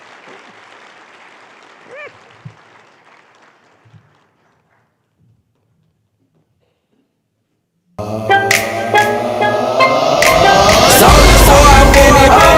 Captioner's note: applause